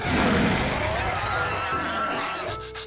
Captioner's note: rabbits snarling